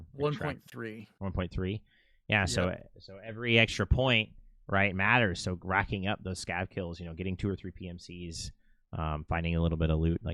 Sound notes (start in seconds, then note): none